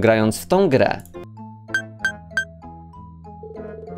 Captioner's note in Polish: bing bing bing